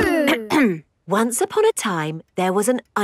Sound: clears throat

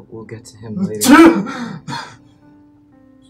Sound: sneeze

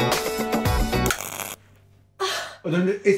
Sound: Hayley gasps

